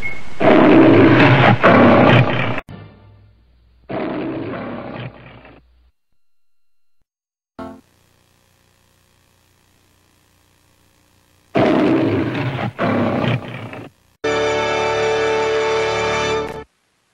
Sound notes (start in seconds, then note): 0.2 Leo the Lion roars; 3.9 Leo the Lion roaring; 11.5 Leo the Lion roars; 14.3 snippeted music plays